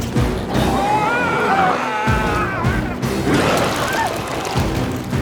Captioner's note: intense music; biker screams